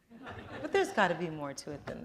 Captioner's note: laughter